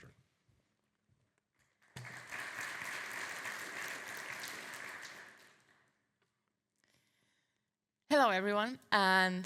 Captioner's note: audience applauding